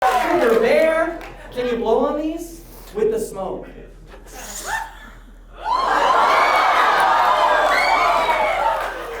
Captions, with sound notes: - Sugar Bear, can you blow on these? With the smoke. (crowd reacts)